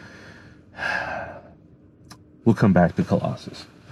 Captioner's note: heavily sighing